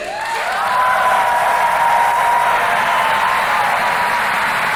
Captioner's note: crowd cheering